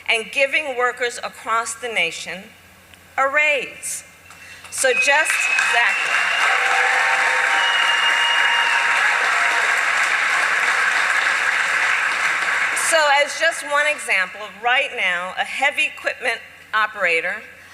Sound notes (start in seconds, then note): 8.1 applause